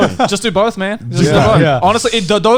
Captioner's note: laughing